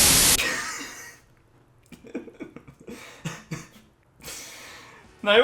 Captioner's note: depressed drunken laughter